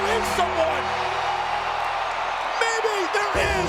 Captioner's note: crowd cheers